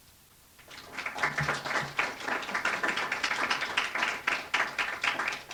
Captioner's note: applause